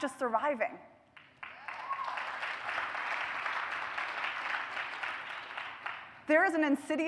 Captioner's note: applause